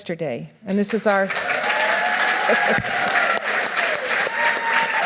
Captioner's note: audience applauds